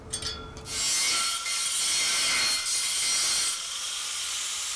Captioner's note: saw humming